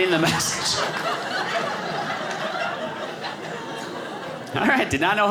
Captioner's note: audience laughing